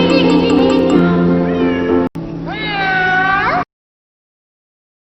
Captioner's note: miaow